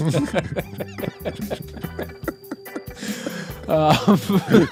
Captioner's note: laughing